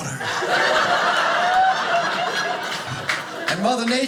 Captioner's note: audience laughing